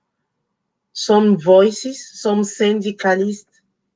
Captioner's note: speaking Spanish